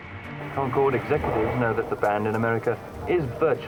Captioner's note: radio voice